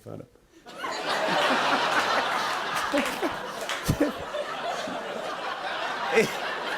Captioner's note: laughter